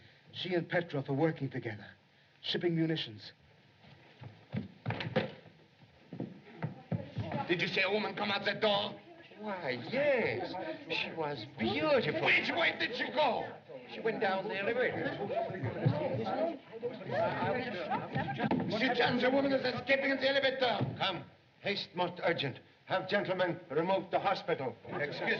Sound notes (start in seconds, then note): 12.1 shouting; 16.0 crowd Chattering